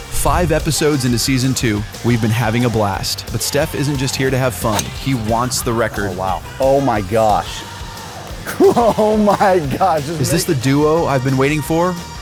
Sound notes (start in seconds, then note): 9.6 laughs